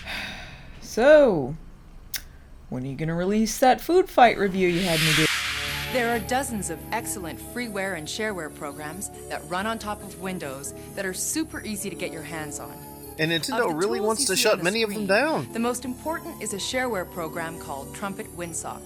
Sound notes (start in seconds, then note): 0.0 deep sigh; 4.7 whoosh